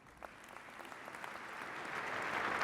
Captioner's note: applause